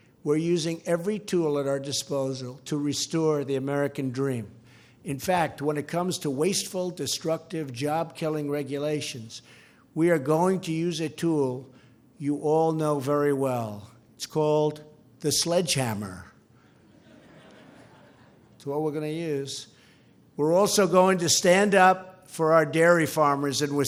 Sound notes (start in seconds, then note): 16.7 laughter